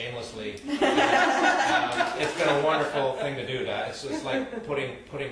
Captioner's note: group laughs again